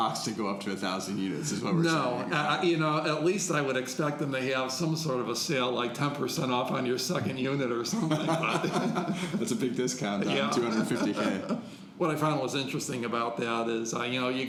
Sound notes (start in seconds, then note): 7.9 laughing